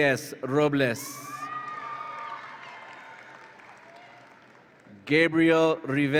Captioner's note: audience applauds and cheers